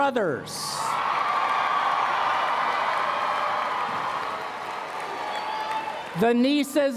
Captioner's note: applause